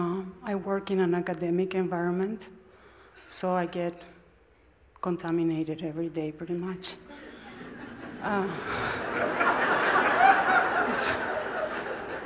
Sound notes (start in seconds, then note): 7.1 smijeh